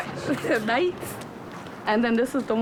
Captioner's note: chuckles